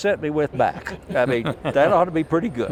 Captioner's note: laughing